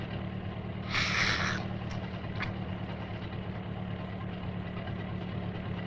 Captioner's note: Harris gasps deeply